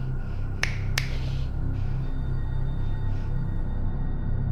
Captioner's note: fingers snapping